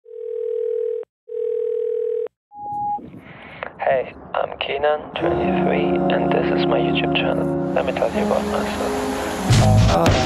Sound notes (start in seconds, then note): 1.3 phone rings